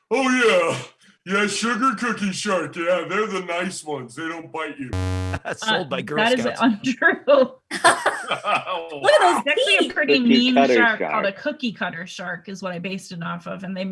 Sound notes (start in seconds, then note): 4.9 error Sound; 7.5 laughing